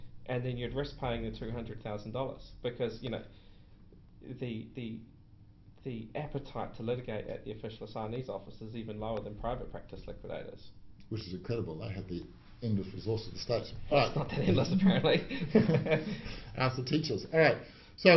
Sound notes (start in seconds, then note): 14.0 laughs